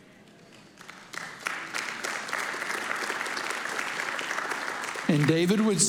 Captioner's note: congregation applauding